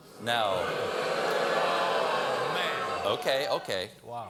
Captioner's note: audience reacts